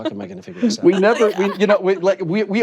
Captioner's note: laughter